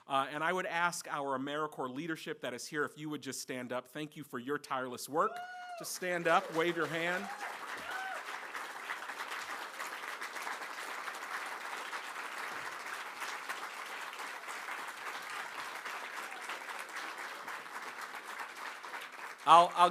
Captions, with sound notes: And I would ask our AmeriCorps leadership that is here, if you would just stand up. Thank you for your tireless work. Stand up, wave your hand. (APPLAUSE)